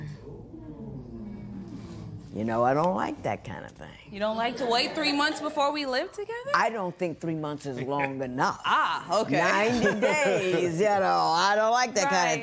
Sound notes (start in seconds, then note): 3.2 spectators murmuring; 9.6 laughing